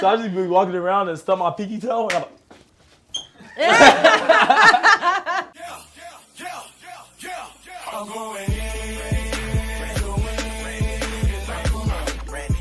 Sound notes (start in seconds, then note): 3.4 both laughing